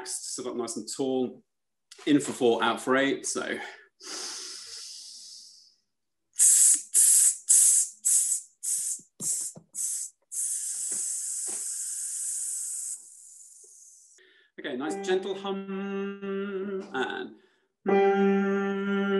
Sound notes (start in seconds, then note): 4.0 all breathe